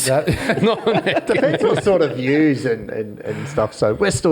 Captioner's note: all laugh